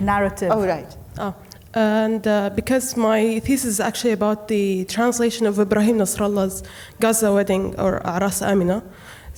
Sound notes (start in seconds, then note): 5.8 speaking Arabic name